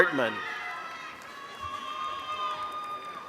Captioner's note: applause